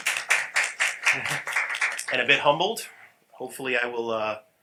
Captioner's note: applause